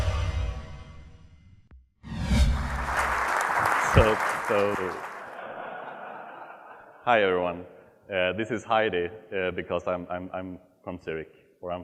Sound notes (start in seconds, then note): 2.5 audience applauding; 5.4 audience laughs